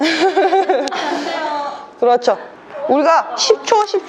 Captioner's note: laughter